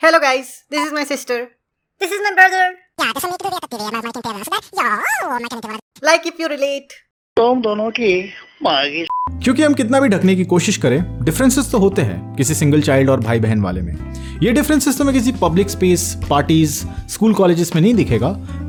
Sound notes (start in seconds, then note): 2.9 blabbering